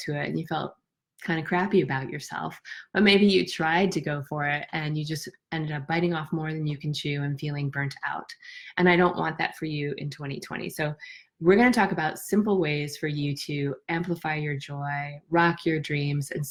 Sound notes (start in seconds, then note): none